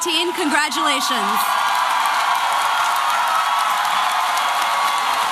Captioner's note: applause and cheering